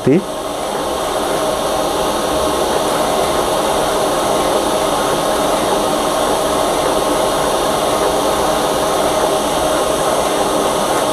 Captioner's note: printer machine sound